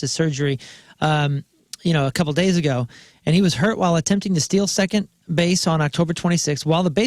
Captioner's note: none